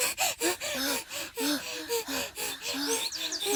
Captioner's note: both panting